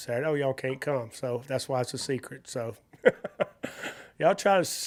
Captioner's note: laughs